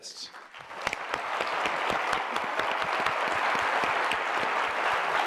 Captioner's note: applause